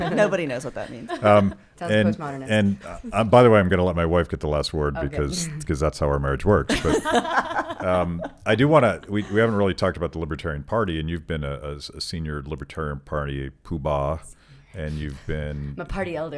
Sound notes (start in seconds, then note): 6.7 laughing